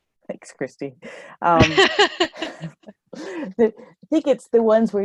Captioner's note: laughter